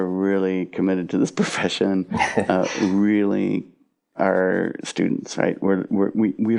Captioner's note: both laugh